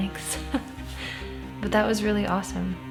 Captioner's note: laughs